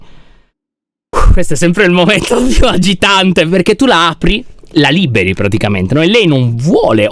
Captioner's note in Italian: sospira